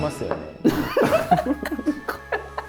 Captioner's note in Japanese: 一同：笑い